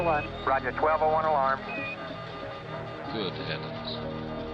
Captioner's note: alarm beeping